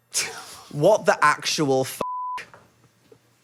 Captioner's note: beep